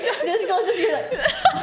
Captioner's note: laughs